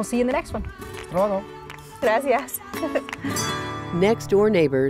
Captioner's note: speaking in Spanish